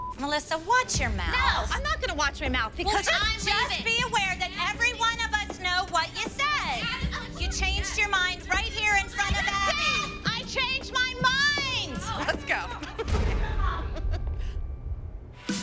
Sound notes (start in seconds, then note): 11.7 laughs; 12.0 laughter